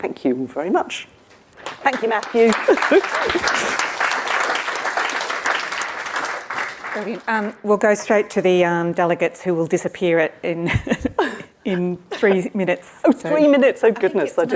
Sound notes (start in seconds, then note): 1.6 crowd clapping; 5.7 laughs